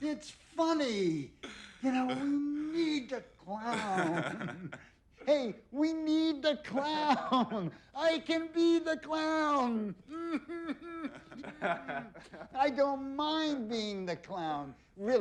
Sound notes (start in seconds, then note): 10.1 sailor laughing